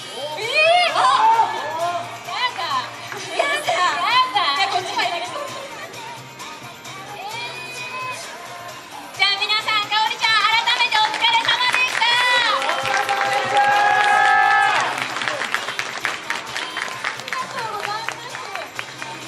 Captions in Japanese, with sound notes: えええええ あっ！ やだぁ やだぁ じゃあこっち入りましょう えー じゃあ皆さん かおりちゃん 改めてお疲れ様でした 【拍手】 お疲れ様でした！ ありがとうございます